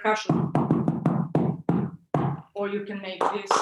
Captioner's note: hand tapping on bellow